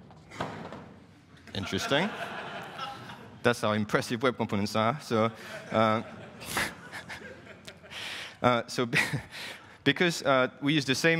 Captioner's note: laughing